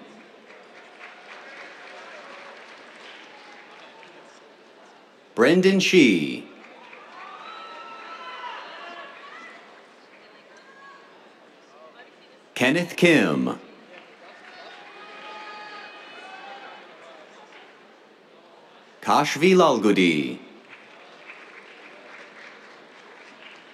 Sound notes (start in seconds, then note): 0.0 applause; 6.6 cheers, applause; 14.2 cheers, applause; 19.1 applause